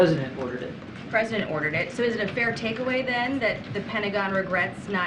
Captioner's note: mixed voices